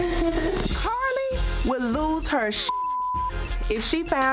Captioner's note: beep